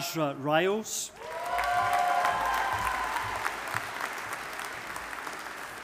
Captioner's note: audience applauding